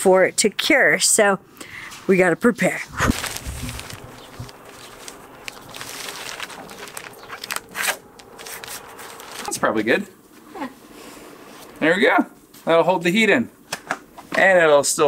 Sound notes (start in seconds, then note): 4.7 plastic rustling